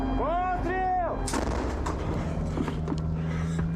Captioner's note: yells in ukrainian; cannon booms; breathes rapidly